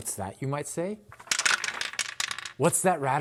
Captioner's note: more expensive rattling